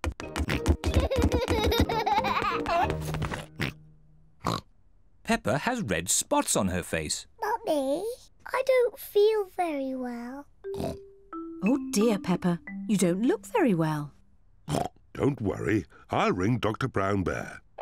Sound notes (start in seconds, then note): 0.5 oinks and giggles; 4.4 oinks; 10.7 oinks; 14.6 oinks